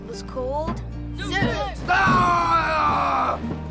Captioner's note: Zoot shouting; drums pounding